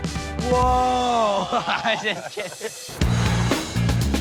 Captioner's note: chuckles